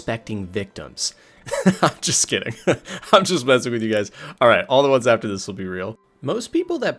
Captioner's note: laughing